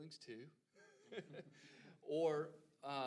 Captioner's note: laughing